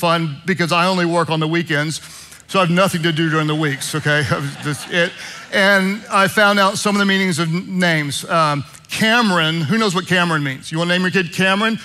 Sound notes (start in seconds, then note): 3.3 congregation laughing